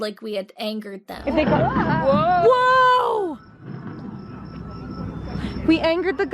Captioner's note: fake thunder booming